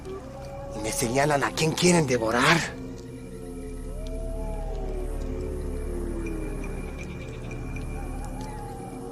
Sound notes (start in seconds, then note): 4.1 howling; 8.1 exciting music